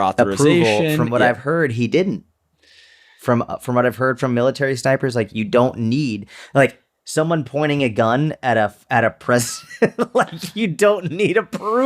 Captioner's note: chuckle